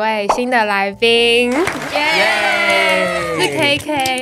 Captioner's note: applause!